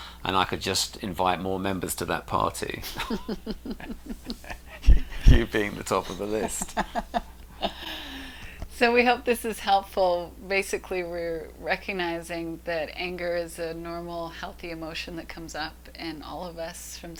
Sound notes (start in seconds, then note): 2.8 laughs